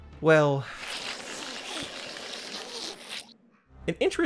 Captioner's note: horrible Slurping Noises